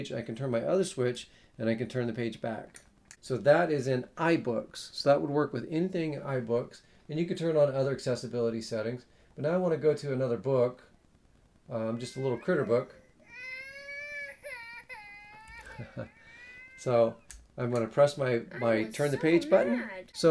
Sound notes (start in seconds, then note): 13.6 baby Ccrying In audiobook; 13.6 presenter Laughs